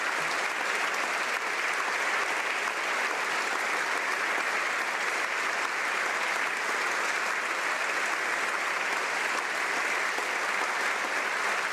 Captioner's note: applause